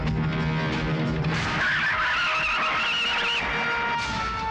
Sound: tires Screeching

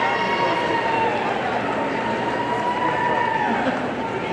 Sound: audience cheers

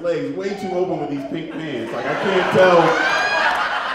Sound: audience laughs

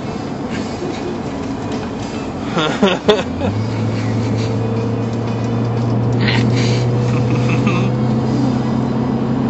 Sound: laughs

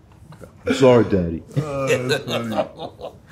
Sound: laughs

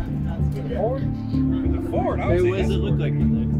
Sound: all chattering

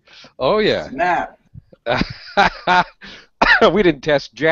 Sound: laughs

